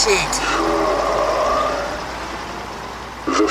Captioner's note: Coat Pyro sighs, annoyed